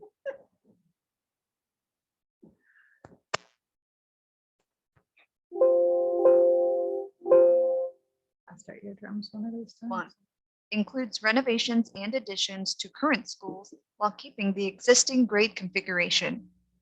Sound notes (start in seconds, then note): 0.1 laughs; 5.6 computer chimes